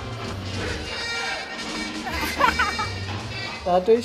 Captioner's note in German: lacht